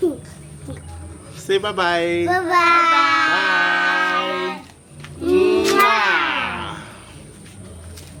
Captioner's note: kisses